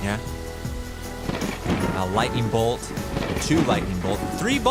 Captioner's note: thunder cracking